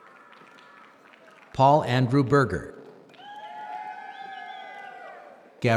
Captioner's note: applause